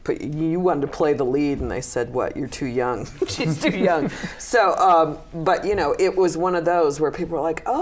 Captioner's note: laughter